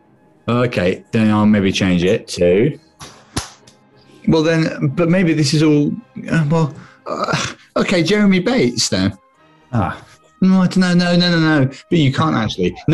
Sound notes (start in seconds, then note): 6.7 sighs